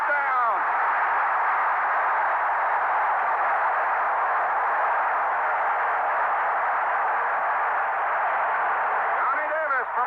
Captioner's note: crowd cheering